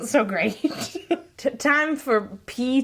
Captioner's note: laughing